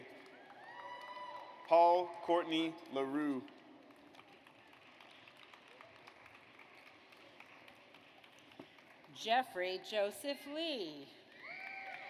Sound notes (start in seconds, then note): 0.3 audience cheers; 3.8 audience applauds; 11.4 audience cheers